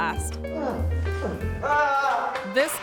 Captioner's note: person grunts and screams